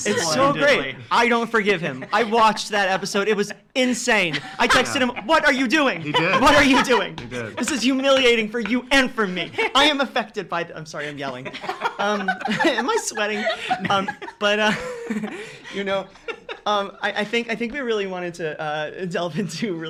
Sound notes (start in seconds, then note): 14.3 laughing